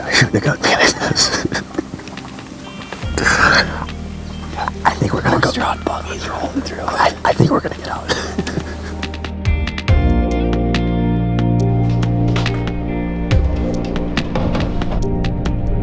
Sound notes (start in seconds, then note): 1.7 laughs; 8.1 peaceful instrumental music